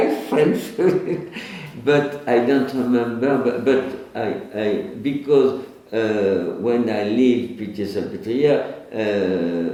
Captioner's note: laughs